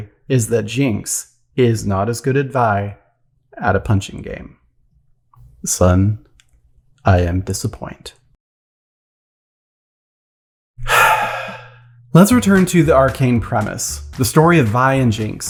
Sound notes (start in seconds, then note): 10.8 sigh